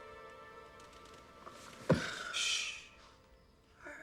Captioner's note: gasps